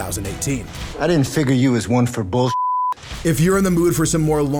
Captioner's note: beep